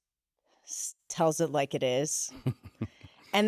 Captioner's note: laughs